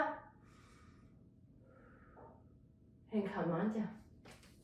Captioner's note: breathing deeply